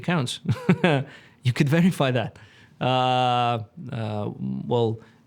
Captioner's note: laughs